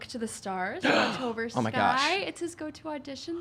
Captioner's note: gasping